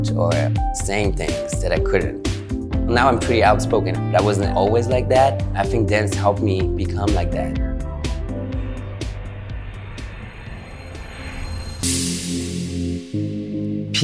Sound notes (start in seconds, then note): 8.8 plane engine roaring; 11.9 electronic music